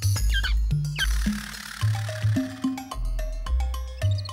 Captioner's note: chirping; rattling; chattering